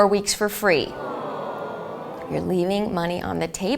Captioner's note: audience booing